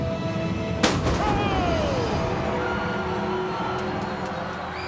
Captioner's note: pyro blasts; audience cheering